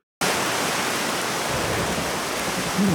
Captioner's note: grunts